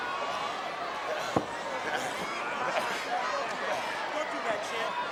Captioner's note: wrestlers grunting